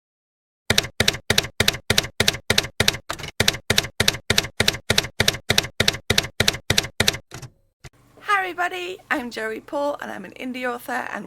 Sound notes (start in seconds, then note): 0.7 typewriter keys clacking